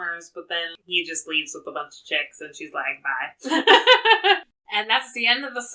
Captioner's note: laughs